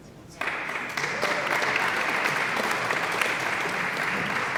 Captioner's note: audience applauds